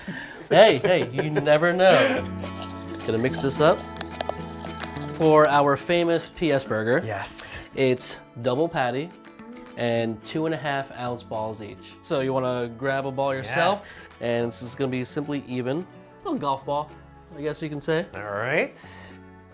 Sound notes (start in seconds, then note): 0.0 snorts and laughs; 3.6 sauce splodging